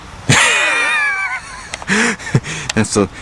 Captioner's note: laughing